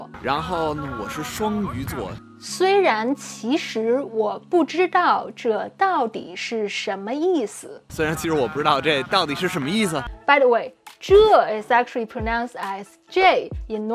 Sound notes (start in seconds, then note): 0.3 speaking in Mandarin; 8.1 speaking in Mandarin